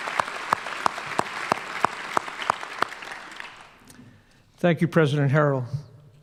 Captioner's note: applause and cheering